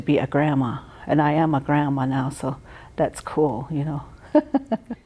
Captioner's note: laughter